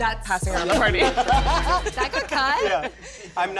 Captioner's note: laughter